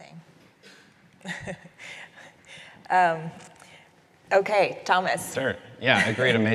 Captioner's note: chuckles